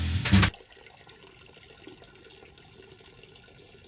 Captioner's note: urine trickling